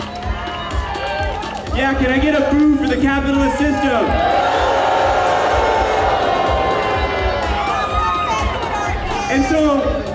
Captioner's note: audience boos